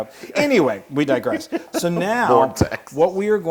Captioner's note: laugh